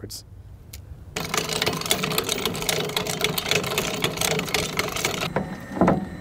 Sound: equipment clanking and humming

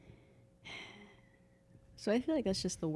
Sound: sighs

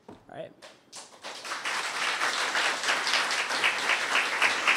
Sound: audience applause

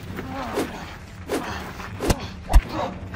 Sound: Mike grunts

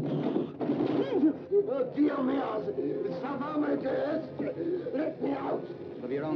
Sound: speaks in foreign language

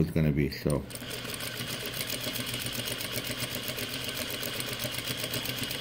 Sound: sewing machine stitching

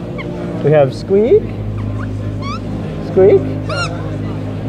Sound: squeak

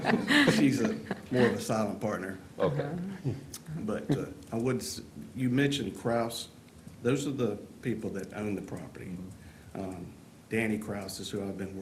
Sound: laughter

